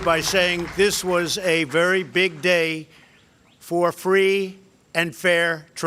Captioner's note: applause